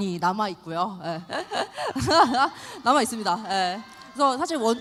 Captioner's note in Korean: 환호